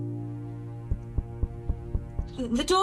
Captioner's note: knock on the door